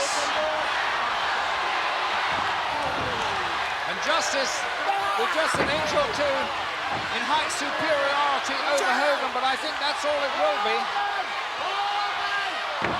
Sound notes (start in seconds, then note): 0.2 blows thudding; 0.2 crowd cheering; 4.7 Sid grunting; 5.4 blows thudding